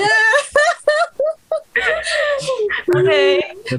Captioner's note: risas